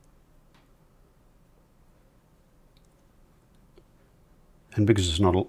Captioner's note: silence